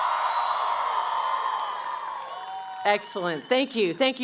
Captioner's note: cheering